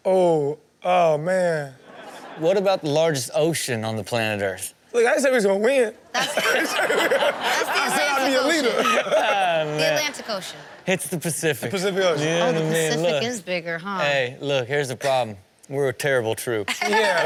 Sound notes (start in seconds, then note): 6.1 audience laughs; 16.7 Chanel laughs